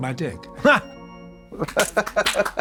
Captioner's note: Katya hoots; Trixie giggles